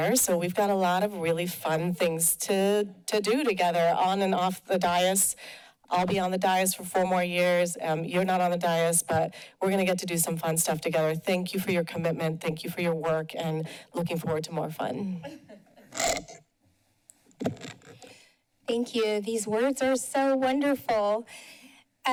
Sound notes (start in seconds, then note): 15.2 laughter; 17.3 microphone squeaks